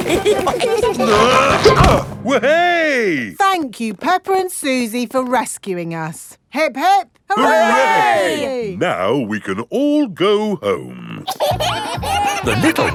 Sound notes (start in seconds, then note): 0.0 all giggling; 1.0 grunting; 11.2 kids giggling